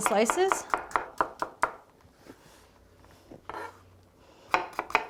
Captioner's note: knife chopping